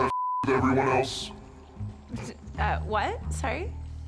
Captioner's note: scoffs